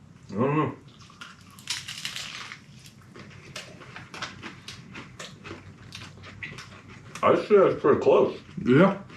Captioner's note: shell cracking